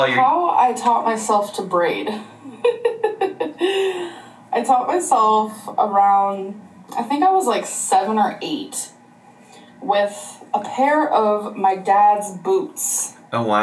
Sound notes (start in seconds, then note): 2.4 giggles